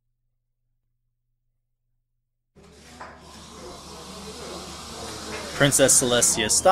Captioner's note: background noise fades in of kitchen staff going about their tasks